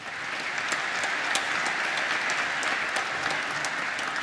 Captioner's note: applause